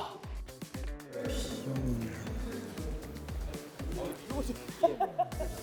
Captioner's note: murmuring